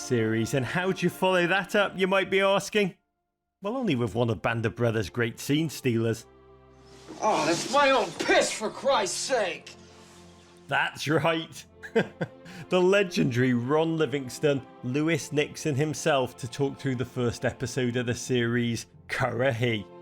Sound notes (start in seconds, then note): 7.1 groans; 11.8 chuckles